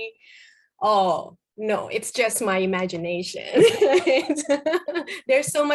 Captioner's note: laughs